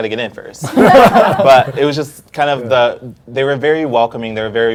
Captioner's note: panel laughs